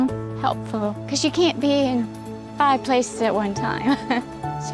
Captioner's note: chuckles